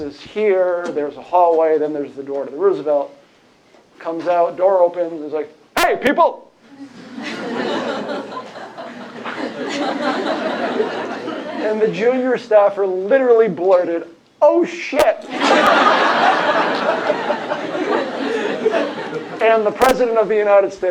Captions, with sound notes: is here, there's a hallway, then there's the door to the Roosevelt. Comes out, door opens. He's like, hey, people. [LAUGHTER] And the junior staffer literally blurted, oh shit. [LAUGHTER] And the President of the United States